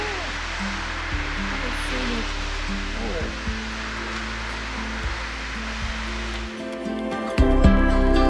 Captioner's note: water gushing